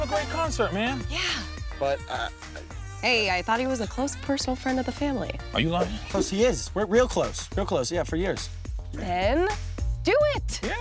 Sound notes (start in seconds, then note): 0.0 electronic music; 2.0 Billy stutters